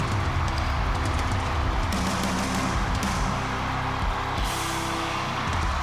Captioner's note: cheers and applause